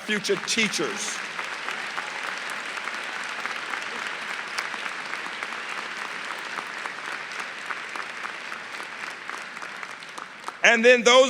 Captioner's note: applause